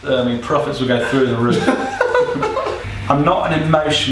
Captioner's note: laughing